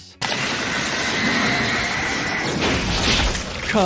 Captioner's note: electricity sparking